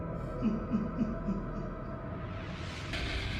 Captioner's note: ominous laugh